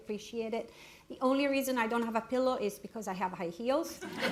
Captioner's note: laughter